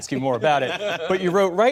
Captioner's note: laughter